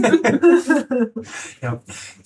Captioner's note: laughing